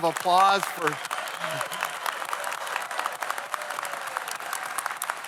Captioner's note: audience applauds; claps